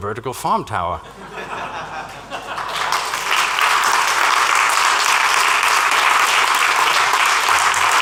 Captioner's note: laughter and applause